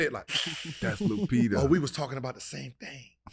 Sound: Gilbert hisses

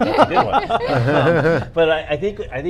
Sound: all laugh

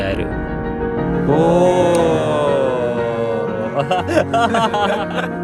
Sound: happy laughter

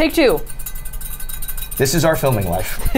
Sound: whisk clattering

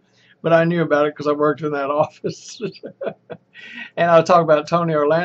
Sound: laughs

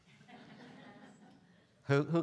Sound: students laughing

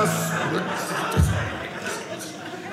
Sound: audience laughing

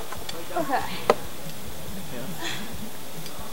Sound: students grunting in effort

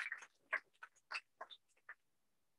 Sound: applause

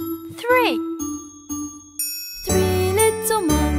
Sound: chime ringing

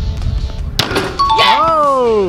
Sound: ding

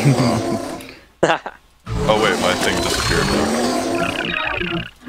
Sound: haha

